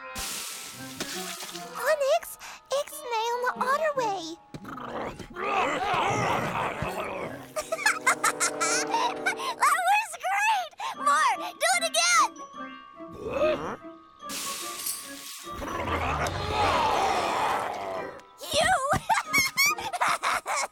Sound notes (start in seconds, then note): 4.6 angry growls; 5.5 laughs; 15.6 growling; 18.9 giggling